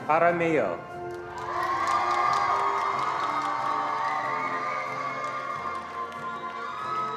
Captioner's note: attendees cheering and applauding